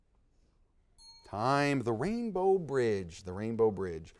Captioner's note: time bell dinging